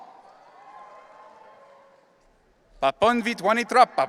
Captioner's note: audience cheering